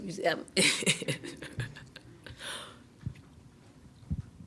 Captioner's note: laughing